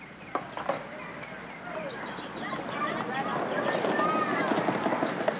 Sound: chatter

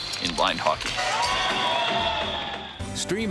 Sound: rattle/cheering

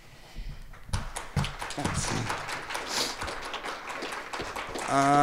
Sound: applause

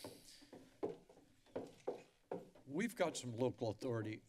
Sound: footsteps

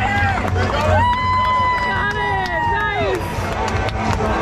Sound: fans cheering

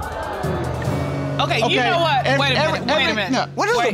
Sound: audience gasping

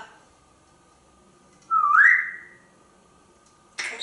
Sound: whistling

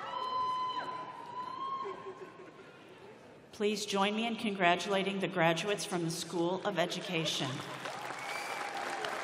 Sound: applause

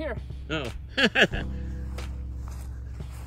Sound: chuckles loudly

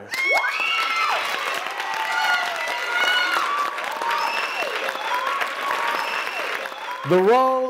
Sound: applause

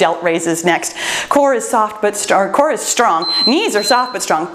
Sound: timer beeps

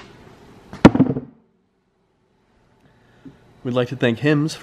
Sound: thudding

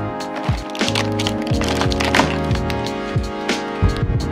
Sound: packaging crinkling

